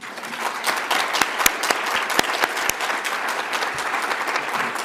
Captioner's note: audience applauds